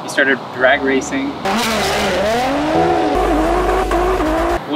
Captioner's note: loud engine